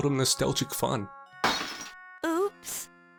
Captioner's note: glass shatters